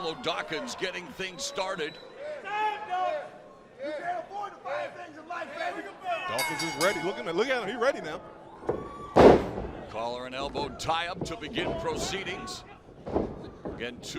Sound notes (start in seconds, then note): 3.7 crowd chatter; 6.3 bell ringing